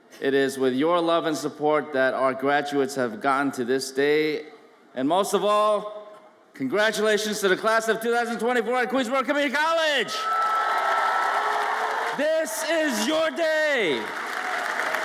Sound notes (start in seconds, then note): 10.2 audience applauds and cheers; 14.8 audience applauds